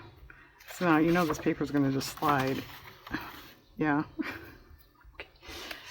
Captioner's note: laughs